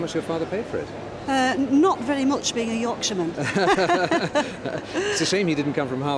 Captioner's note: laughs